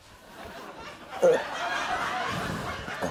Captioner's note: laughter